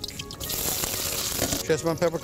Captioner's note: sizzling